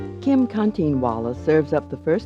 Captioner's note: voiceover